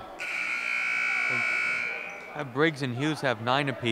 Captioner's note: buzzer sounds